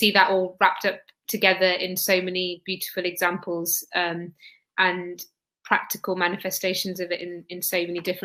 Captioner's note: erm